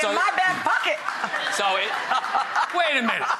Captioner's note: laughter